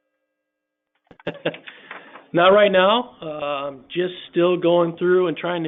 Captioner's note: laughs